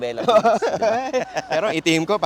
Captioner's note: laughs